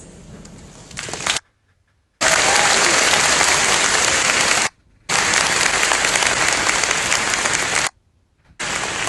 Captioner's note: applause